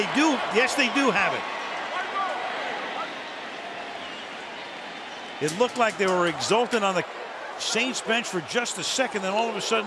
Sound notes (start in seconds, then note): 2.8 onfield chatter